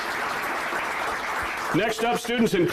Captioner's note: applause